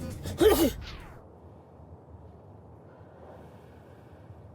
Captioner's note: Bob sneezing